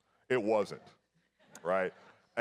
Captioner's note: audience laughs